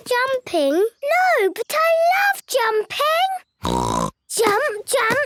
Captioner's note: snort